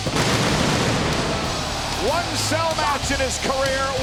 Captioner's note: fireworks shooting